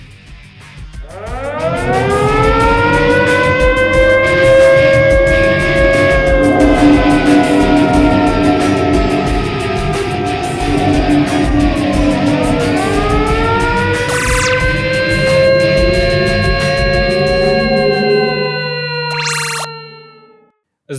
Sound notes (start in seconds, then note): 0.5 air raid siren; 0.5 box engines howl; 5.5 air raid siren; 5.5 box engines howl; 5.5 tractor beam vibrations; 12.7 air raid siren; 12.7 box engines howl; 14.7 air raid siren; 14.7 box engines howl; 14.7 energy bursts; 14.7 portal squeak